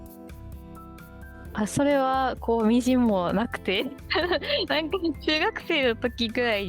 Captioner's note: laughs